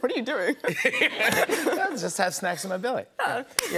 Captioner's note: laughter